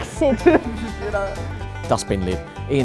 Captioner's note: laughing